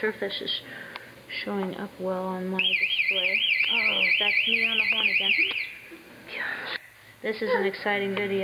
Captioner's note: siren